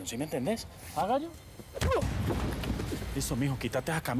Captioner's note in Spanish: puñetazo; ruido al desplomarse